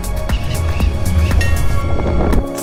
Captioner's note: bell ring